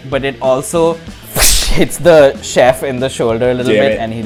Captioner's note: slash